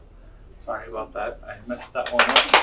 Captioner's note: audience clapping